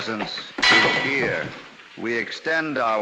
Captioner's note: clink